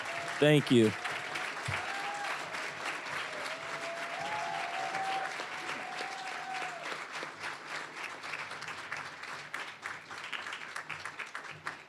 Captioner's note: applause, cheering; applause